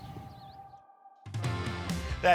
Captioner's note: birds chirping; upbeat music